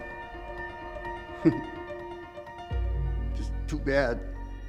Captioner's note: chuckles